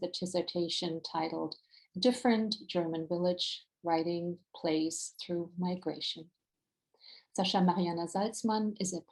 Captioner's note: German